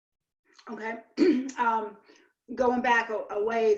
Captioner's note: clears throat